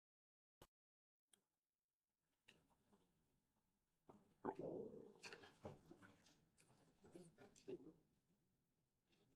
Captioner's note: silence